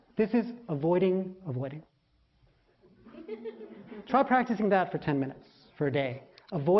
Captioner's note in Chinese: laughter; 笑聲